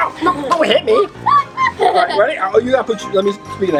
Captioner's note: laughs